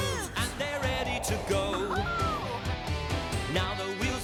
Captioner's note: all whooping